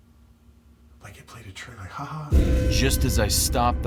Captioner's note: whispering